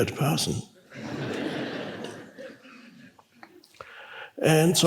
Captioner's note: congregation laughs